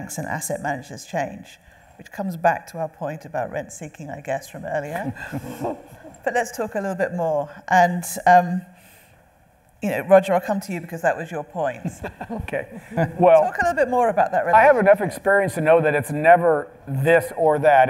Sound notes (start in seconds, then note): 5.2 panel laughing; 11.8 laughing